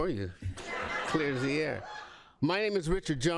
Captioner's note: laughter